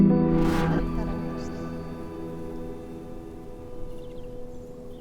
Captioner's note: speaks in foreign language